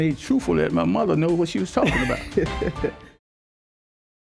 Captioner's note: chuckling